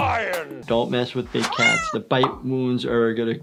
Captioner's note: meowing